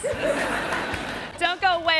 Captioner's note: audience laughing